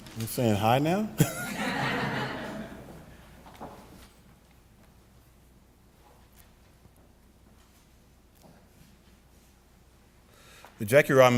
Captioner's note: laughter